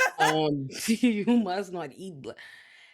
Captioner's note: laughing